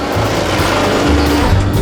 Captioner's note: engine roaring